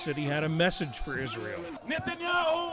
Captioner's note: through translator